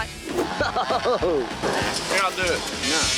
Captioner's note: spectator laughing